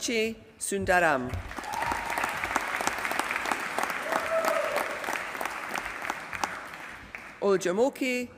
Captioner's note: applause